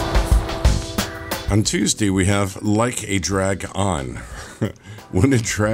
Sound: chuckle

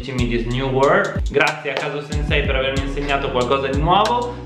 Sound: same thing in Italian

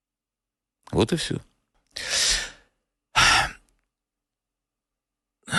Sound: he sighs heavily

